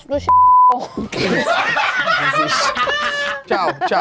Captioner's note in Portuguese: risadas